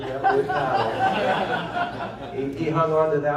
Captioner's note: laughter